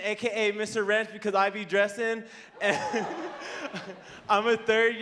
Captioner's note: laughing